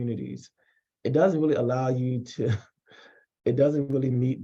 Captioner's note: chuckles